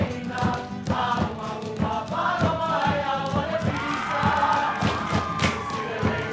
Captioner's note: cheering